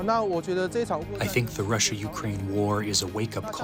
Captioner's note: through translator